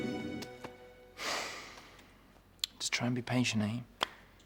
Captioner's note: Jay sighs